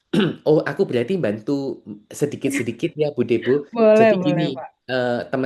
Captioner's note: berdehem; berdehem